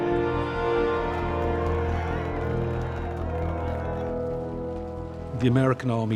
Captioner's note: cheering and applauding